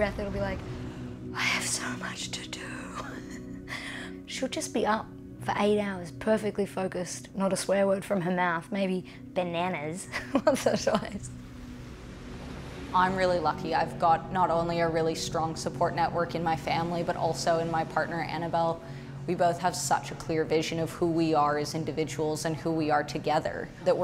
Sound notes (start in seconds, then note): 3.0 laughs; 10.1 laughs